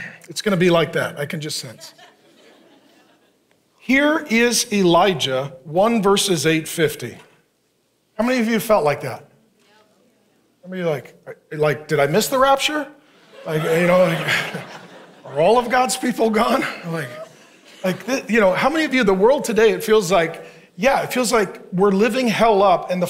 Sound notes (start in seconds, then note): 1.7 congregants laughing; 13.1 congregation laughing